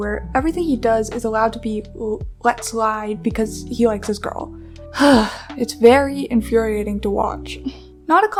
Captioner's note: sigh